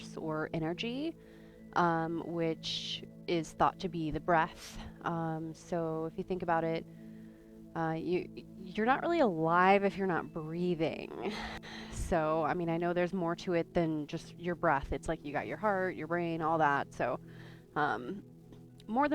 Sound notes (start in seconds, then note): 6.8 breathes